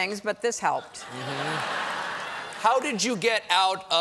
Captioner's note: laughter